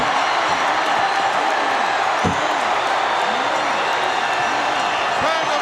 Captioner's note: audience cheering